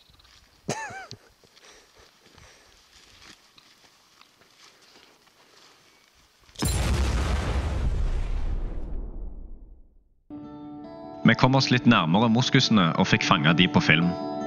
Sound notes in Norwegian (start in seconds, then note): 8.2 fake explotion